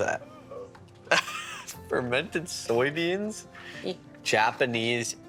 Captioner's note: laughing